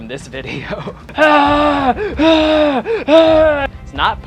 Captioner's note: ambiguous screaming